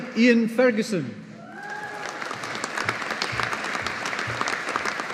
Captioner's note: audience applauding